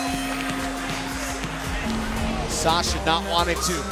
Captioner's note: bell ringing